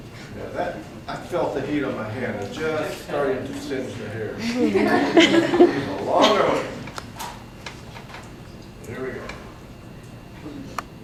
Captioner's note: laughter